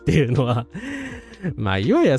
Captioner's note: laughter